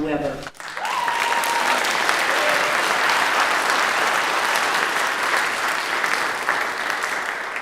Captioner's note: applause